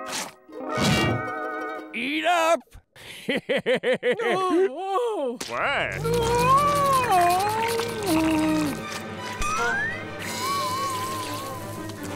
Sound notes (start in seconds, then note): 3.0 laughing; 3.9 groaning